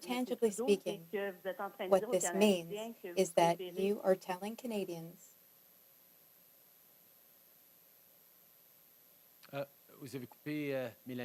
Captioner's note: speaking French